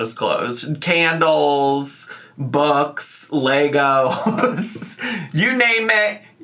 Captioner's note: laughs